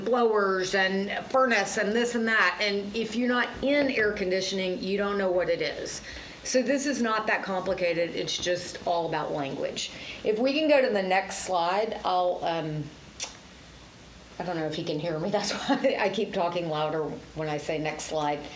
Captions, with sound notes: blowers and furnace and this and that. And if you're not in air conditioning, you don't know what it is. So this is not that complicated. It's just all about language. If we can go to the next slide, I'll, um... [smacks lips] I don't know if he can hear me. [Laughs] That's why I keep talking louder when I say, "Next slide."